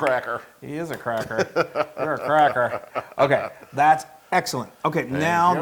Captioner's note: laugh